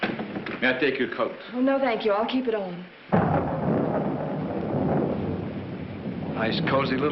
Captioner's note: thunder